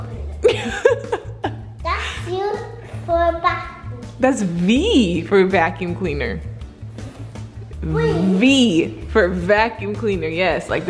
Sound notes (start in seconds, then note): 0.4 laughs